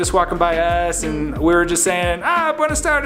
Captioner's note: speaking foreign language